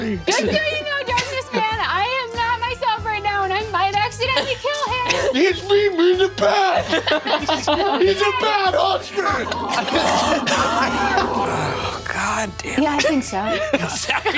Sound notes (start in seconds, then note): 6.4 players laughing; 9.2 grunting; 9.6 Brennan laughing